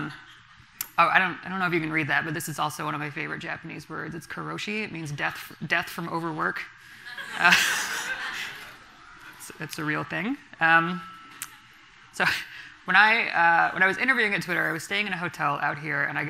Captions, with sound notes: I don't know if you can read that, but this is also one of my favorite Japanese words. It's karōshi. It means, "death from overwork." (everyone laughing) It's a real thing. So when I was interviewing at Twitter, I was staying at a hotel out here,